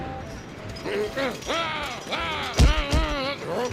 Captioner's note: shouting